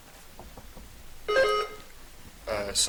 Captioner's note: buzzer dings